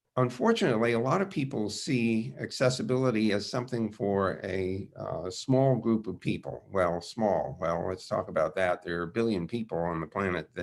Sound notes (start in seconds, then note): none